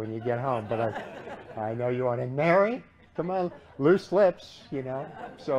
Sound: laughter

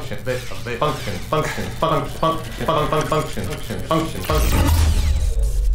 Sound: glitching & Repeating

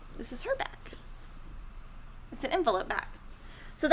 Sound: none

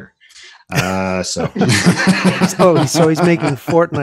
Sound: laughter

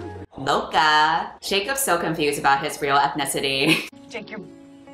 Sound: laughs

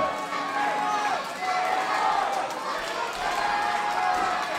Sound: crowd cheering

